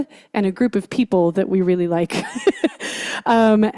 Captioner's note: laughs